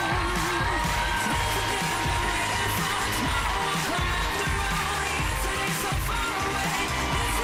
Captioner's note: cheers and applause